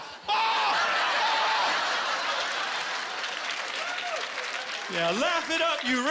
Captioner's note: laughter; applause